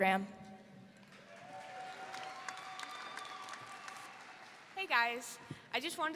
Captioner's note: audience applauding